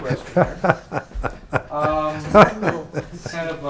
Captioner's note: laughs